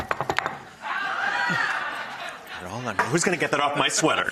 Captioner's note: audience cheers